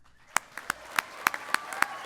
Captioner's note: applause